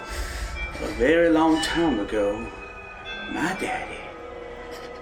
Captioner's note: whispering